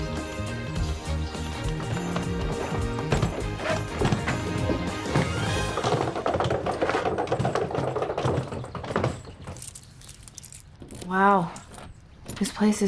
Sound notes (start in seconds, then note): 5.4 rolling luggage